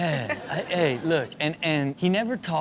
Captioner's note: Chanel laughs